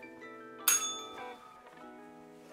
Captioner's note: bell rings